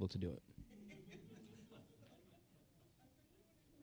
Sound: audience laughing

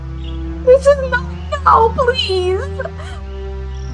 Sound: distressed laughter

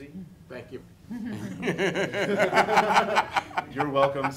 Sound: laughing

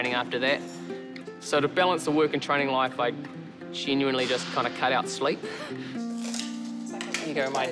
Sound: chuckles

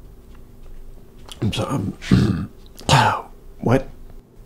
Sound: clears throat

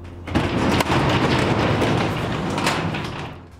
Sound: door rattling

